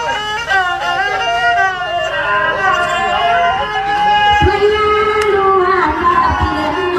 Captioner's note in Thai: ปรบมือ